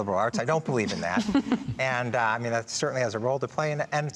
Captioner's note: all laughing